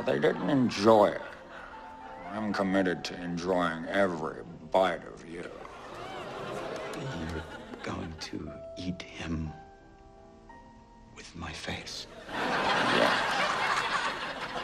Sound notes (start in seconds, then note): 5.5 audience oohs; 12.1 laugh track